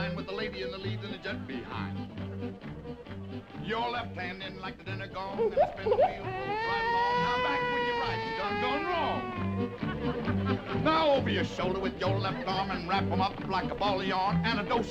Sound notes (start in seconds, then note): 2.5 upbeat music; 5.8 baby crying